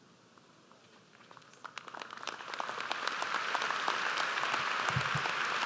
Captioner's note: audience applauds